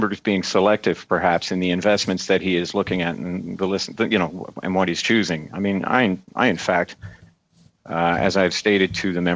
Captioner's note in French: voix de l'interprète